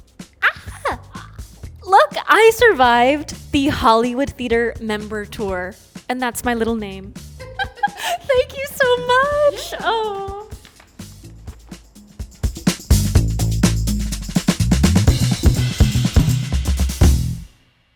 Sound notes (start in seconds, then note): 7.4 laughs; 12.5 upbeat music